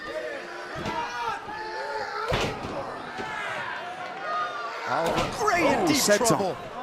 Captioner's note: crowd chatter